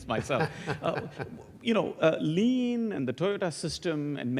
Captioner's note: laugh